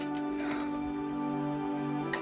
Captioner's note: outrageous sigh